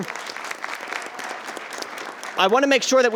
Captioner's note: attendees applauding